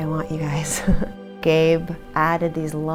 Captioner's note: giggling quietly